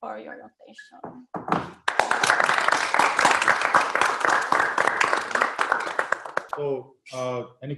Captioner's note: audience applause